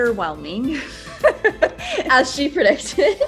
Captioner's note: both laughing